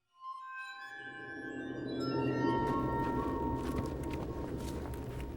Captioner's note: sinister music; footsteps